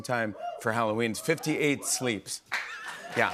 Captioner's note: laughs